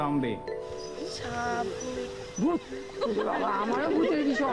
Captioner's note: man speaking native language